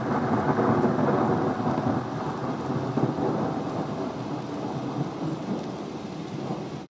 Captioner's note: rain and thunder sounds